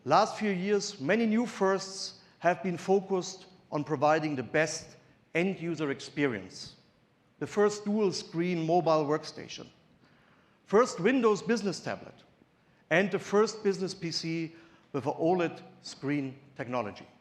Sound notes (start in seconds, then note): none